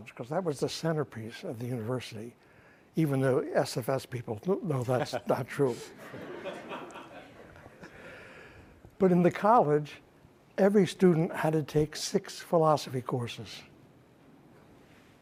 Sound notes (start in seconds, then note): 5.6 audience laughing